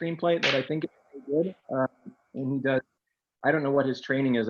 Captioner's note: object snaps